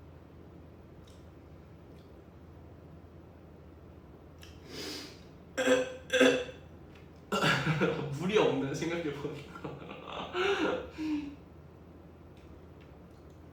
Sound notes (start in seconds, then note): 4.7 sniffff